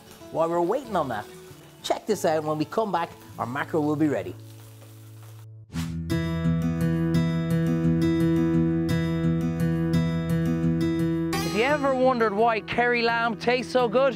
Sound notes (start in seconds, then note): 4.9 pan sizzling; 6.0 peaceful guitar music